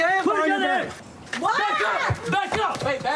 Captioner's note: screams